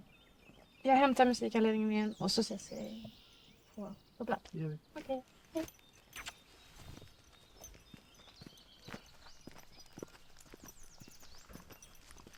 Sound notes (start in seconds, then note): 8.8 footsteps; 9.5 birds chirping